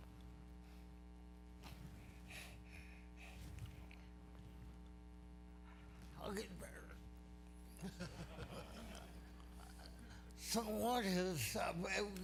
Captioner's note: laughter